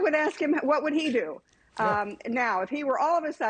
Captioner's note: laughter